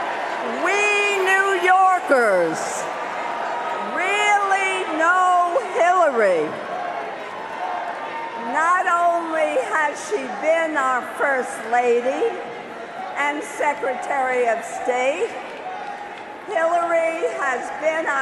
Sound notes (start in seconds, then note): 6.3 cheers and applause